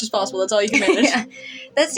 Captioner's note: chuckle